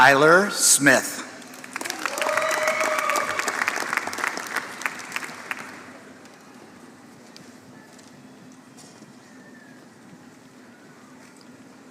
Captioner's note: applause